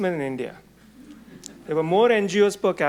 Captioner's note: audience murmuring